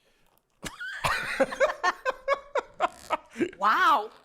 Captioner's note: both laughing